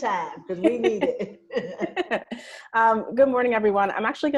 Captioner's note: laughing